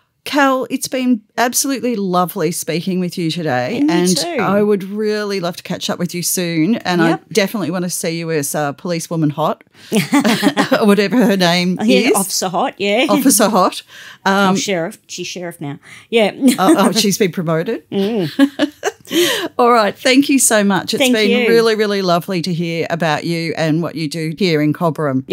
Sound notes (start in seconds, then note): 12.0 laughter